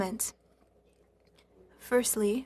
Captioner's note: speaking French